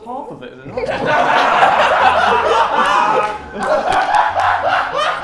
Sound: Sidemen laughing

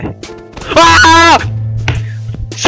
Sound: screaming

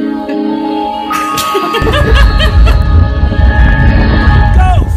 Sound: laughing loudly

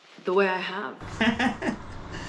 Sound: laughs

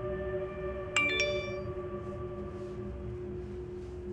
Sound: text alert

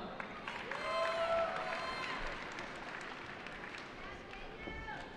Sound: cheering

